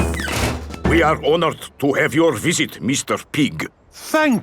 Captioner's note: none